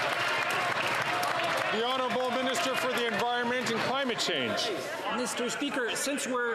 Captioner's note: some Applause